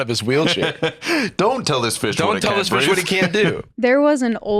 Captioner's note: laughs